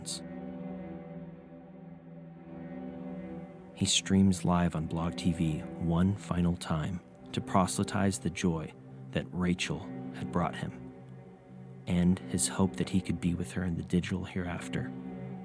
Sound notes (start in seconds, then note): none